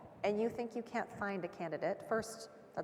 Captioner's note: none